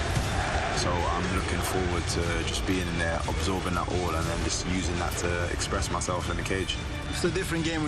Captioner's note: crowd chanting